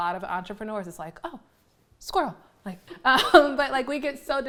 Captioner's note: laughs